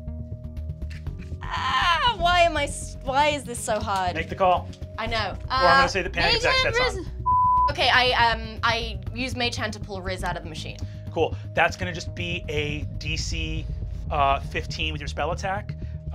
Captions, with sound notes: (moans) Why is this so hard? - Make the call. - I know. - Or I'm gonna say the panic attacks catch on. - Make it Riz! - (beep) Okay, I use Mage Hand to pull Riz out of the machine. - Cool, that's gonna just be a DC15 with your spell attack.